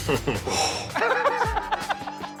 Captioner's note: man chuckling; man sighing; man laughing